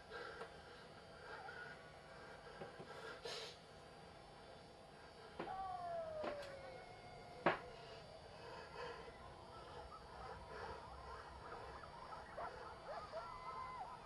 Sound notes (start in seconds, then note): 8.8 coyotes yelping